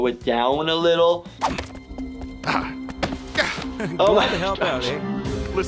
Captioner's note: Dad grunting